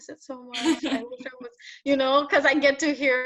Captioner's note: interviewer laughs